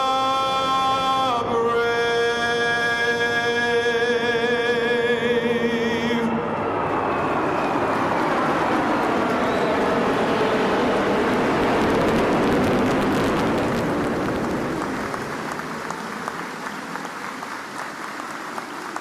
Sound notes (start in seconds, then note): 6.0 jet engines; 9.6 audience applauding